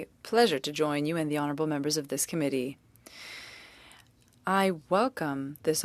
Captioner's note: speaking French